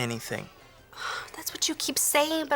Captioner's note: sighs